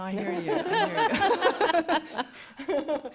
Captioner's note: laughter